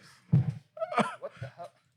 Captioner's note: laughing